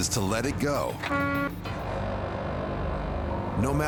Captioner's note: horn honking